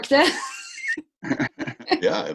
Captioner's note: laughs